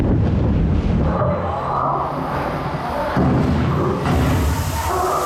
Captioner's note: wind whipping; animals roaring; steam hissing